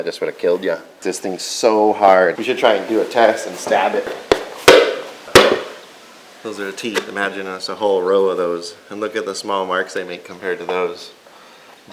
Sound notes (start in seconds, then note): 5.4 loud stabbing